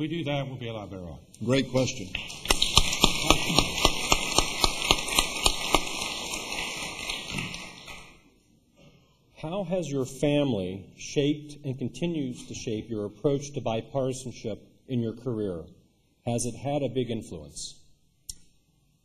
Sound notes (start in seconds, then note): 7.3 applause